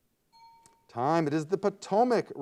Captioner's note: timer bell dings